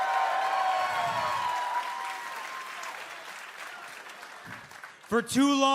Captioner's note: crowd cheering